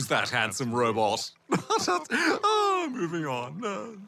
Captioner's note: laughs